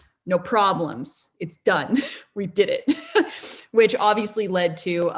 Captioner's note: laughs